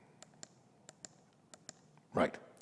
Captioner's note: mouse clicks repeatedly